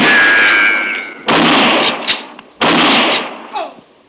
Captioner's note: gunshots